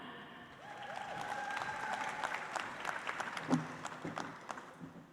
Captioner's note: audience applauds